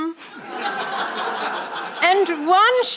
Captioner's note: audience laughing